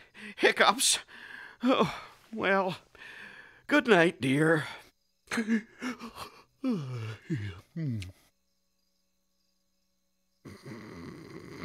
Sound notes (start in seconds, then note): 3.0 chuckling; 5.6 munching and gulping